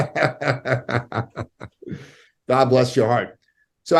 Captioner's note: laughing